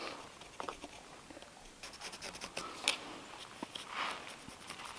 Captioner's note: pencil scraping